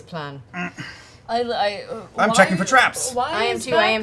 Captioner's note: grunts